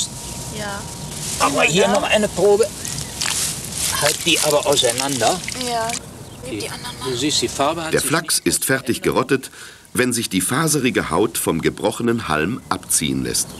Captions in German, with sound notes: [Arbeitsgeräusche und -gespräch] Der Flachs ist fertig gerottet, wenn sich die faserige Haut vom gebrochenen Halm abziehen lässt.